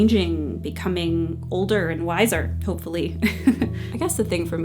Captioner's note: laughs